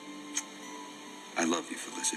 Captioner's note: lips smack